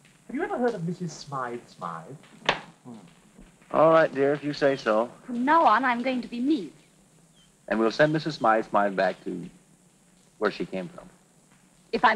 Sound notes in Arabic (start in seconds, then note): 2.7 صوت طرق الباب